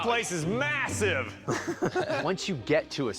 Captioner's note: laughs